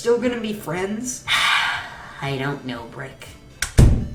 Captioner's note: sigh